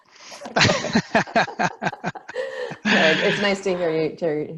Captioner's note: laughing